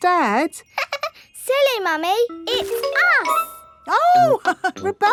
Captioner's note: laughs; chuckles